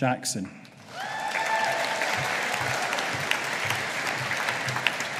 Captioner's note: audience applauding